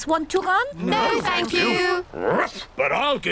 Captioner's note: barks